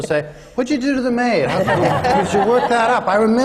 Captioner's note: laughter